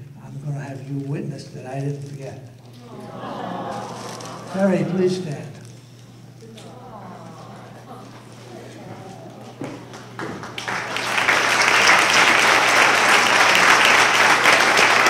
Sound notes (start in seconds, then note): 2.7 audience vocalizes endearment; 6.4 audience vocalizes endearment; 9.5 applause